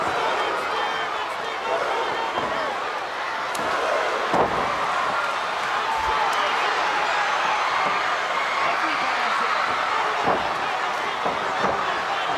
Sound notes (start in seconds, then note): 4.4 crowd cheering